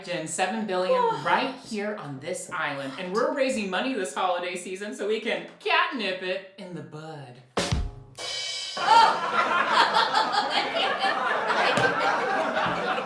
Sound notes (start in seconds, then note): 8.8 audience laughter